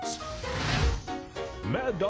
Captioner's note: flames sizzling